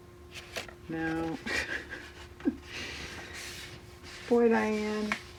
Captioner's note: laughs